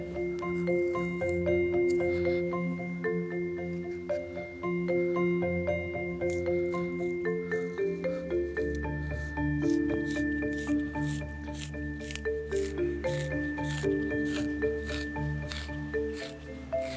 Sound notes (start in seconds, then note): 10.2 bark peeling off tree